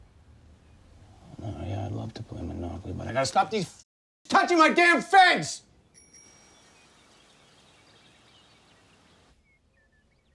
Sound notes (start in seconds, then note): 5.9 bike bell ringing